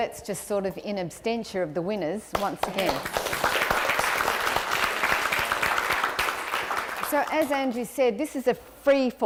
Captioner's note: applause